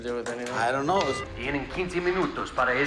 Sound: beeps

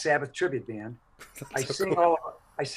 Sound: laughing

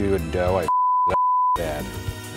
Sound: beep

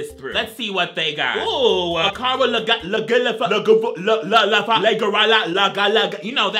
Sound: speaks gibberish

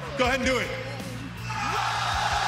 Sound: crowd

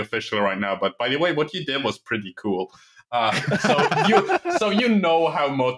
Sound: laughter

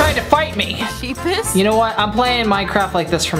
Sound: giggles

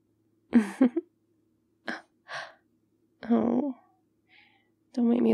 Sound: laughs

